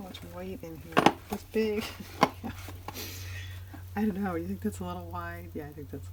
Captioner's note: laughs